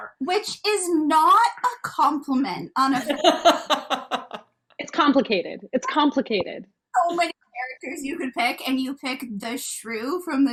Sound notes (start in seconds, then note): 3.0 laughing